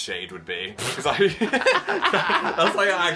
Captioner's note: both laughing